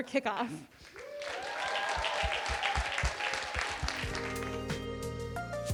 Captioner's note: audience applauding; gentle music